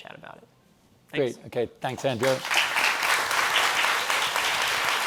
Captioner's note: applause